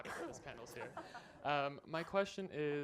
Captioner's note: laughter